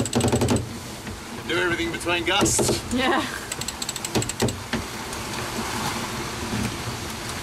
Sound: laughs

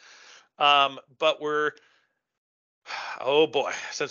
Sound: sighs

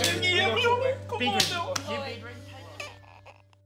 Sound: clapping sounds

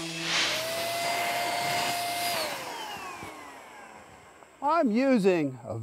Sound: spray gun buzzing

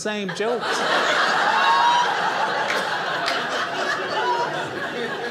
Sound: audience laughing

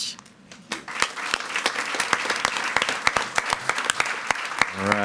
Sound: attendees clapping

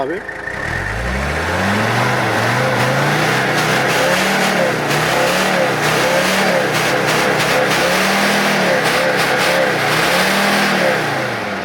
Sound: exhaust sound

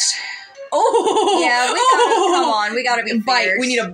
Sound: hooting Laugh

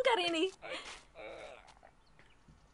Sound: muffled groaning

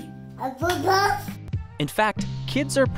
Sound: kid answers happily in English

